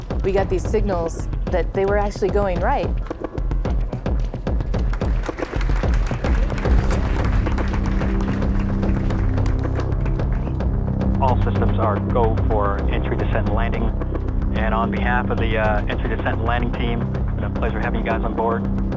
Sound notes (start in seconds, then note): 5.0 crowd claps; 7.1 upbeat tension music